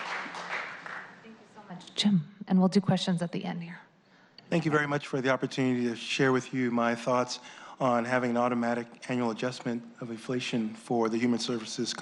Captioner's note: applause